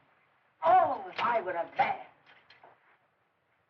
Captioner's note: none